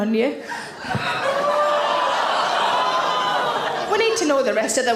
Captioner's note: audience gasp and groan